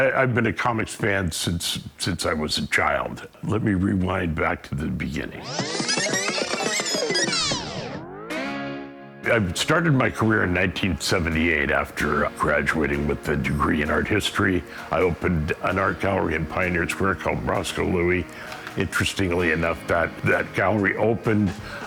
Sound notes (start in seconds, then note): 5.3 tape whirrs